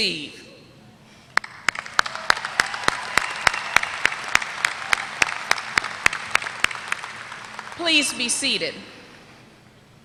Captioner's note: applause